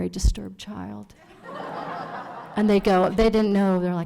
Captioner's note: audience laughs